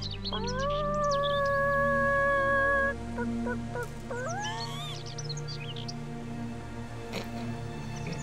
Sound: drawn out chicken noise; sniggering

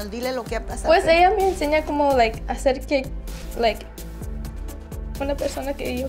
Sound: speaks in foreign language

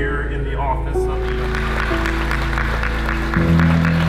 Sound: applause

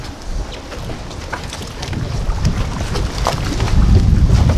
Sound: water splashing

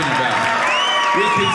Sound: audience cheering

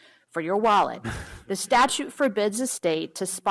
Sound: laughter

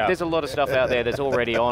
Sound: laughs

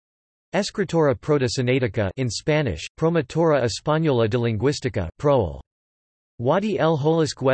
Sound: in Spanish

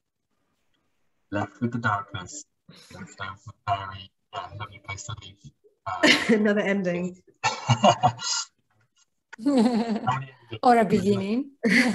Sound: laughing

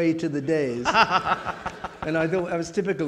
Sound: audience laughing

